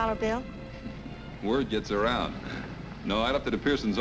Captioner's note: chuckles